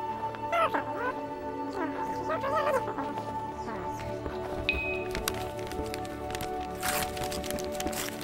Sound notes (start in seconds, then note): 2.8 alien Sounds; 5.1 wrapping paper being ripped off